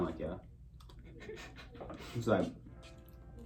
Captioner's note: laughs